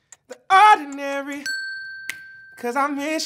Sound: bell dings

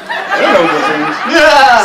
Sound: laughter

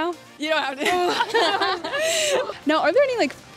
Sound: all laughing

